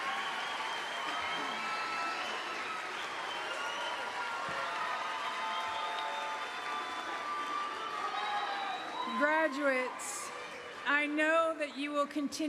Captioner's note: cheering and applause; applause